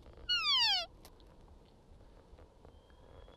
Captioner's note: animal call